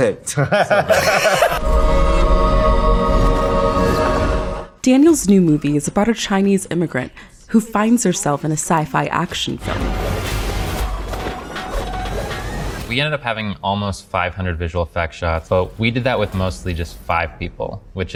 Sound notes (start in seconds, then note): 0.2 Daniel Kwan, Daniel Scheinert, Zak laughing; 1.1 eerie music; 9.6 weapons smashing